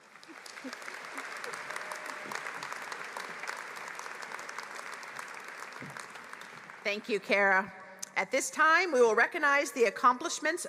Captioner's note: applause